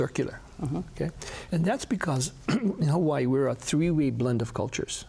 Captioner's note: clears throat